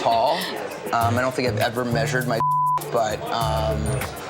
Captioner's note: beep